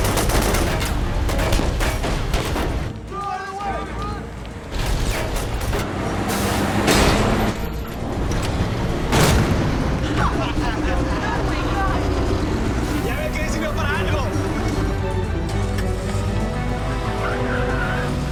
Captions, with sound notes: (shouting) - You see, it was useful for something?